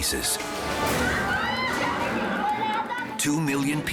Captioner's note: refugees clamor